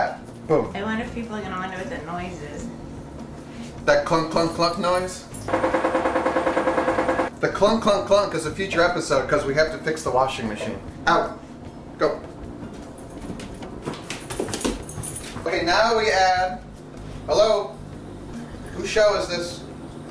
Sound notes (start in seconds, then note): 5.5 washer making clunking noise